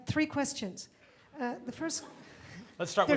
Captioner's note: audience laughs